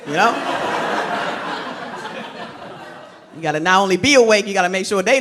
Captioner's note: crowd laughs